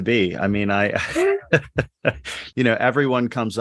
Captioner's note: laughs